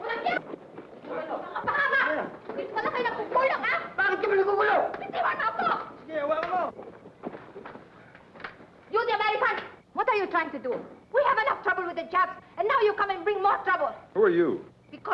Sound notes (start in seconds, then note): 0.1 woman yelling in foreign language; 4.4 man and woman yelling in foreign language